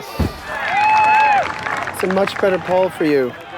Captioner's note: cheering